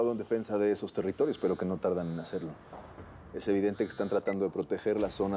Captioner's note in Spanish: Suena un celular